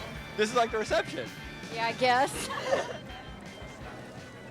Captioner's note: laughs